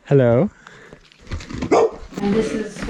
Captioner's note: dog barks